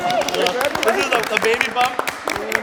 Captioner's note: participants applauding